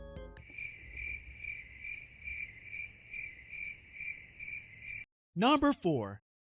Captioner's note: crickets Chirping